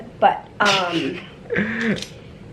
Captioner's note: chuckles